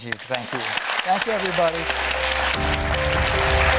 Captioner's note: audience applauding; gentle chiming music